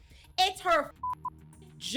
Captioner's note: beep